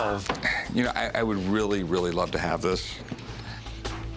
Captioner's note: sighs